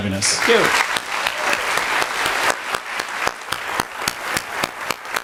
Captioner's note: clapping and cheering